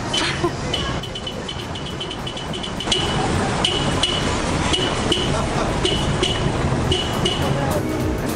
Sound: car honking softly

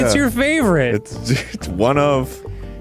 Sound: laughing

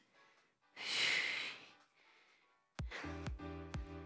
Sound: exhales

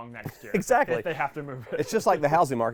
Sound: laughing

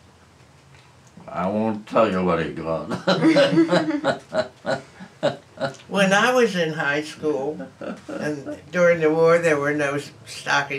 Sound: laughter

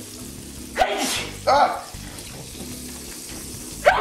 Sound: sneezes

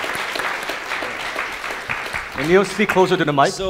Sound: audience applauding

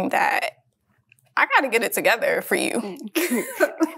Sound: both laugh

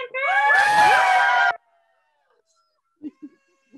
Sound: cheering

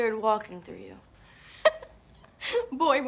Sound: chuckles

